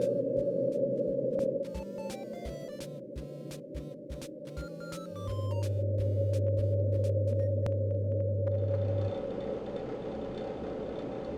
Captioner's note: eerie ambience